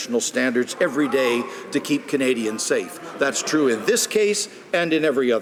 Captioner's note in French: voix de l'interprte